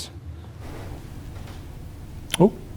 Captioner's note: floorboard creaks